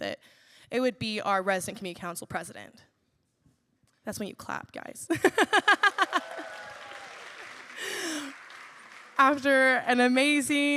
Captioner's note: laughter; applause